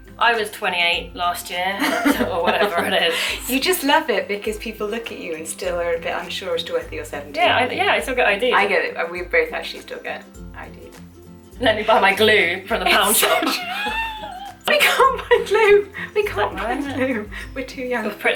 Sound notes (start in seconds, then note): 1.8 laughing; 12.8 laughter